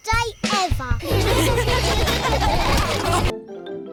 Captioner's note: all laughing